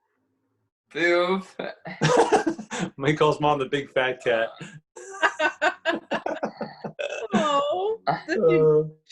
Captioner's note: laughter